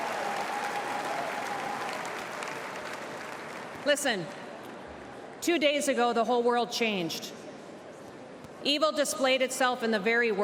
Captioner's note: applause